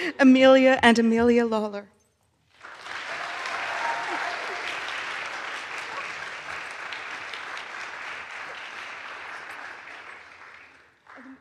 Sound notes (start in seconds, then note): 2.5 audience applauds